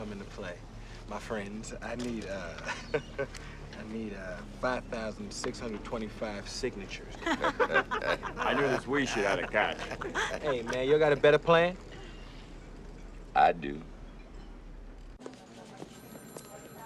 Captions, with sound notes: That's where you all come into play. My friends, I need, uh, [Chuckling]... I need, uh, 5,625 signatures. - [Laughing] - I knew this "we" shit had a catch. Hey, man, you all got a better plan? I do.